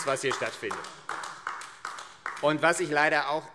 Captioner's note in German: Beifall AfD